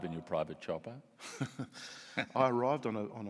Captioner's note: laughs